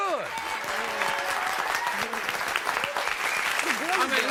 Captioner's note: audience applauding